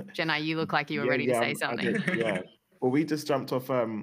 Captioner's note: laughter